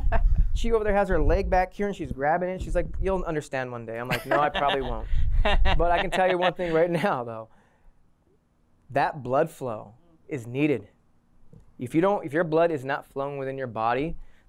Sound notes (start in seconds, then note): 4.0 laughter